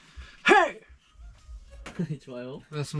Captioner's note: loud 'Hey'